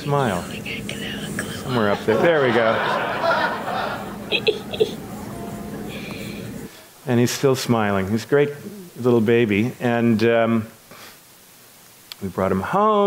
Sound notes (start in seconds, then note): 3.7 audience laughs; 5.3 laughs